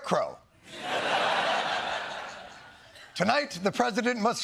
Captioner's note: laughter